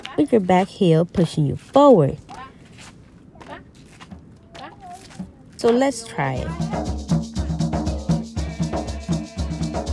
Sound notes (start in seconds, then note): 2.3 feet shuffling; 6.2 drums playing